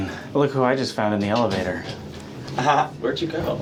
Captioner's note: Jon Cozart laughs